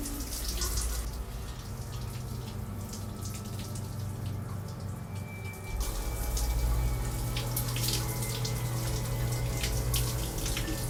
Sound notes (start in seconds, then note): 6.3 shower running